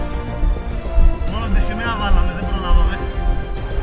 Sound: radio

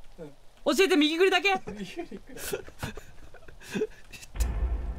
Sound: laughs

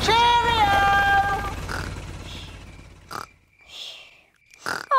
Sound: baby alexander snoring

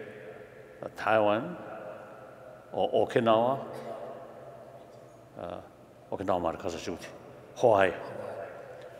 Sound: speaking foreign language

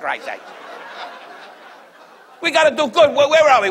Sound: audience laughs

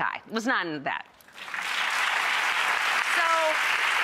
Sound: clapping

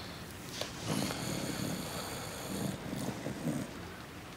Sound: snoring

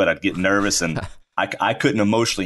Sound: laughs

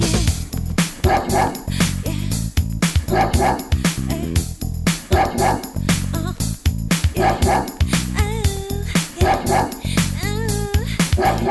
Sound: dog barking to the beat

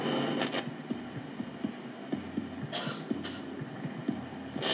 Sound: static crackles

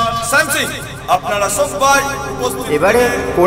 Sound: announcement fades…

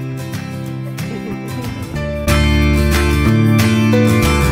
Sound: laughter

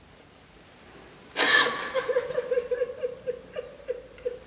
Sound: crying loudly

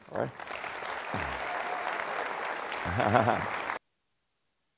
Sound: appluase

